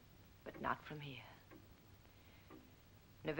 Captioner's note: none